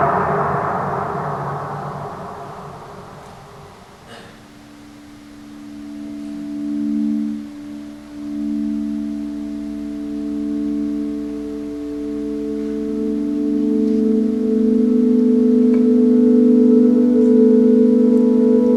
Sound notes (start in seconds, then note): 2.0 cheering fades out; 4.8 piano instrumental fades in; 7.0 piano instrumental